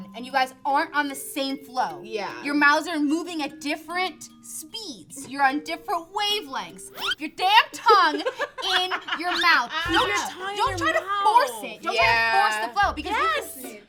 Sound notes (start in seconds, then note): 7.8 laugh